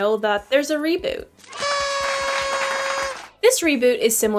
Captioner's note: celebration sounds